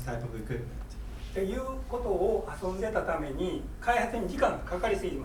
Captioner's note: speaking in foreign language